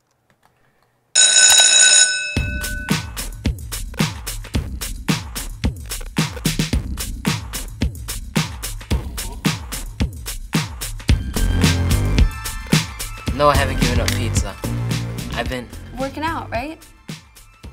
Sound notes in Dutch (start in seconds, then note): 1.1 bell ringing